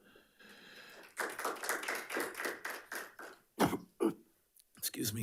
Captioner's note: attendees applauding